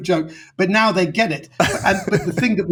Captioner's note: laughing